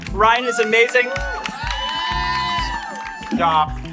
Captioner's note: applause